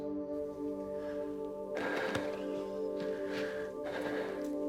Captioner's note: breathing heavily